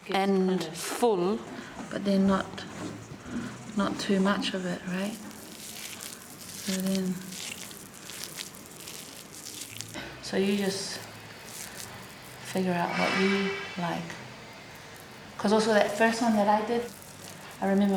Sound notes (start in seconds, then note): 8.7 soft squelching